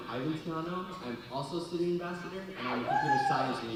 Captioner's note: audience cheering